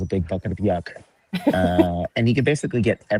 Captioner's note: chuckles